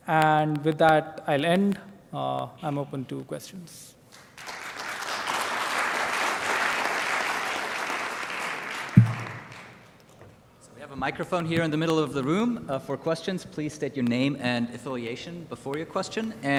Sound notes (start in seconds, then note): 4.1 audience applauds